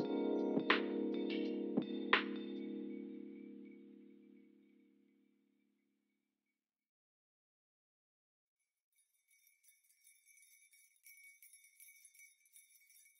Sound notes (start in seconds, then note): 8.9 bells chime